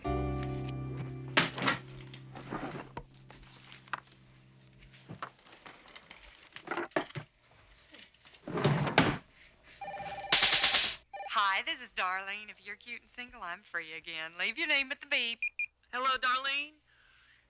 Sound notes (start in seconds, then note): 9.8 phone ringing; 10.0 electricity sizzling